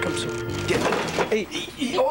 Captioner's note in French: Bang!